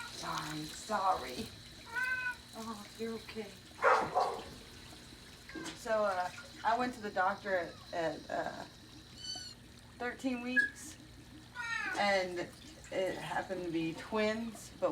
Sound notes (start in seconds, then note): 1.8 cat mewing; 3.8 dog barking